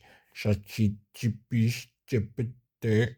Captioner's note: speaking in foreign language